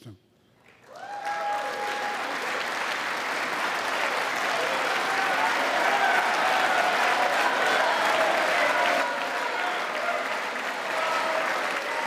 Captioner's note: applause